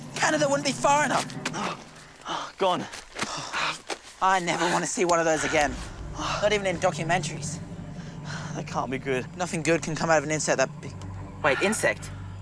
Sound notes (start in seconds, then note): 2.8 sighs